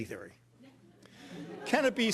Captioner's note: audience laughing